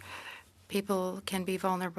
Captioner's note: speaking French